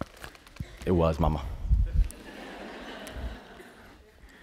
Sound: laughter

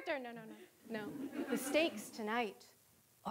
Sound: audience laughing

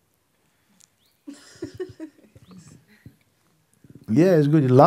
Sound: questioner laughs

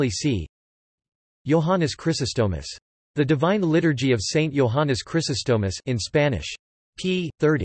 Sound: in Spanish

